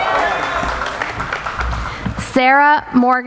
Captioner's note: cheering